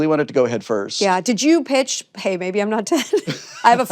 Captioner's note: laughs